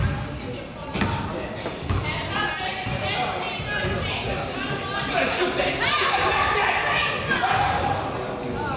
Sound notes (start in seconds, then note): 2.2 crowd chatters; 5.1 coach yells